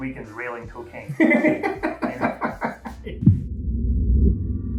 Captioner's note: laughs